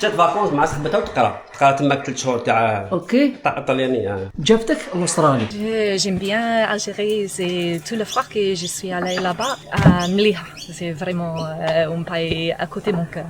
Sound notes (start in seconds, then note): 6.4 italian dialogue